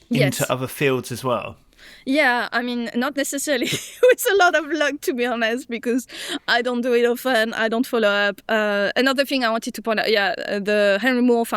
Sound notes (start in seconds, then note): 3.6 chuckles